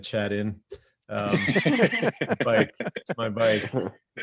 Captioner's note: all chuckle